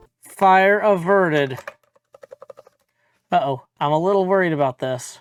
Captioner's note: typing